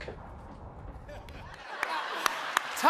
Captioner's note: laughter; cheers and applause